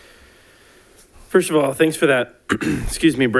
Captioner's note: clears throat